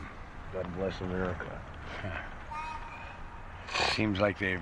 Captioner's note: chuckles